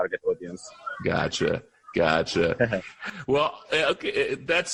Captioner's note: laughter